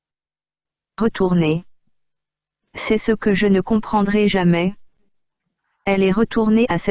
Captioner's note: computer speaking in French